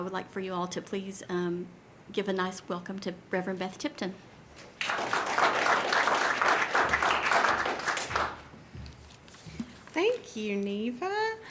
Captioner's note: applause